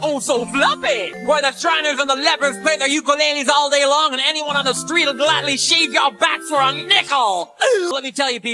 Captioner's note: gasp